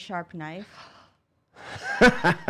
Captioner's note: laughing